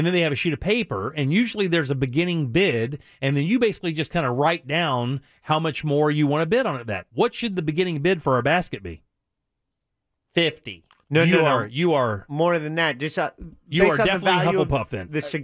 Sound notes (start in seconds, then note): none